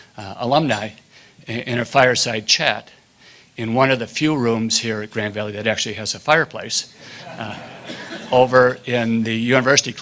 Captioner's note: laughter